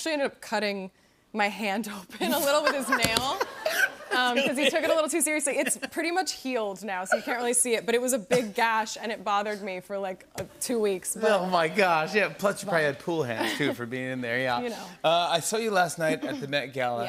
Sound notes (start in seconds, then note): 2.2 laughter